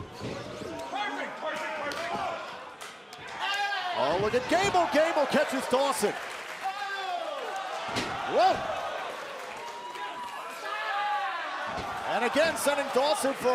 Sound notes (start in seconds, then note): 2.2 crowd chatter; 11.5 crowd chatter